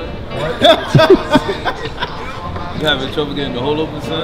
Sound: man laughs

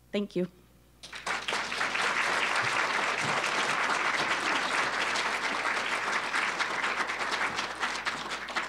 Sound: applause

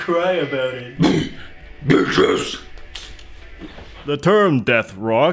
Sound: grunts

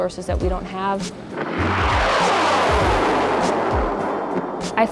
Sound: rocket Launching

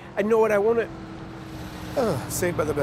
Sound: bus approaching

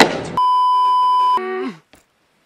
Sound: beeeeeep

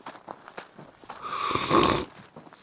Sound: footsteps; slurp

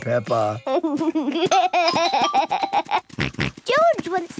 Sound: giggles, snorts

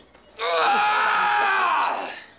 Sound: yelling

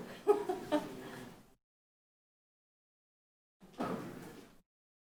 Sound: woman chuckles

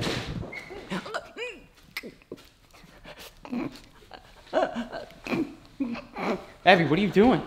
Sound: choking

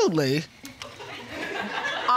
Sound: audience laughing

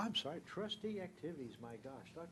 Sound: speaking away from mic

